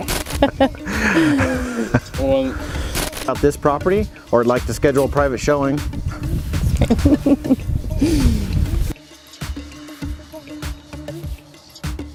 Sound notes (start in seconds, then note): 0.2 laughter; 6.7 laughs; 9.1 soft dance music